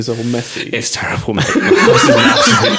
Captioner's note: laughing